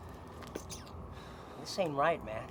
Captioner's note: thug sucks teeth